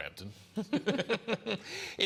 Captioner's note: laughter